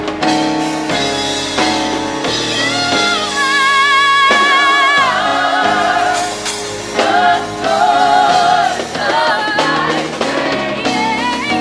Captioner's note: cheers and applause